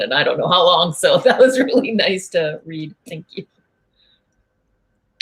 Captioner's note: laugh